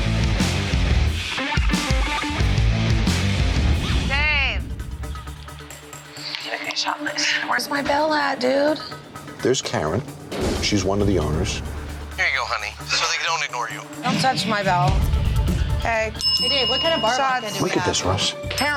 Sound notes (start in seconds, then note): 0.0 upbeat rock music; 16.1 bell dinging